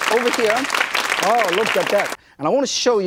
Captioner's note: audience applause